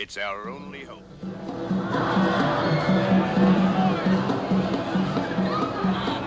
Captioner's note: festive music; laughing